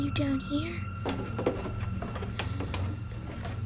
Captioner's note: steps creaking